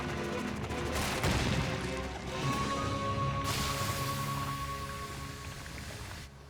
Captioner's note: suspenseful music plays; crash!